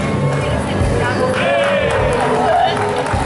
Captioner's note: applause